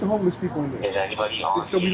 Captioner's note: radio chatter